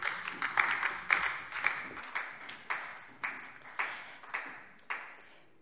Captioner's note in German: Beifall DIE LINKE und vereinzelt SPD